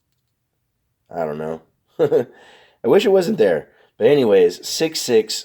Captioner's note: chuckles